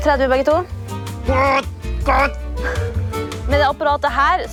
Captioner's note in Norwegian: Hører stønn